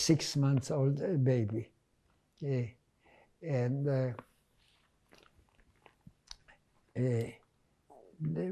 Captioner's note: pauses 6 seconds